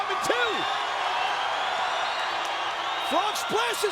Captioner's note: audience cheering